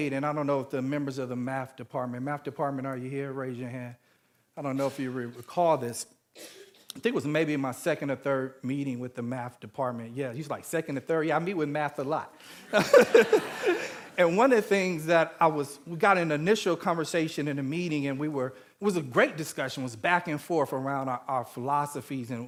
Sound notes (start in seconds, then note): 12.5 all laughing